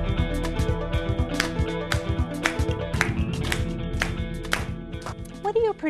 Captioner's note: clapping